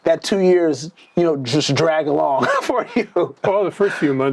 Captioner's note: laughs